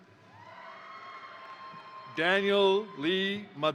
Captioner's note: crowd cheering; crowd applauding